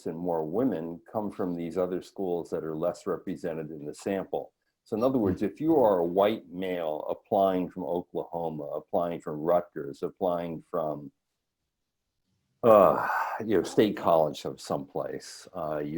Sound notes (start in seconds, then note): 12.6 sighs